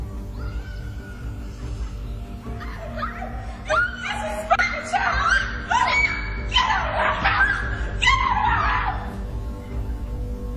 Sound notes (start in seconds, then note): 2.5 screaming; 10.3 dramatic music